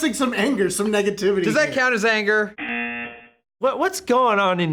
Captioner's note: buzzer